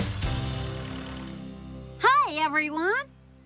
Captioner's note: none